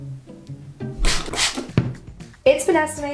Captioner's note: bottle sprays